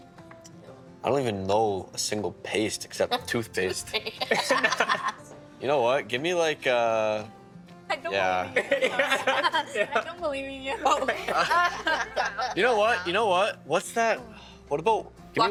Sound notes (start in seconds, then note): 3.1 others laughing; 10.8 laughing